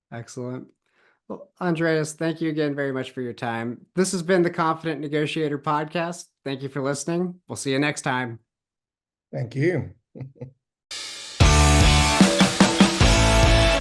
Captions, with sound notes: - Excellent. Well, Andreas, thank you again very much for your time. This has been The Confident Negotiator Podcast. Thank you for listening. We'll see you next time. - Thank you. (chuckles) (upbeat music)